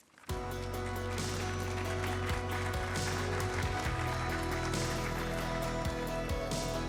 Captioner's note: award show music; attendees applauding